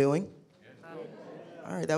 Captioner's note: attendees murmuring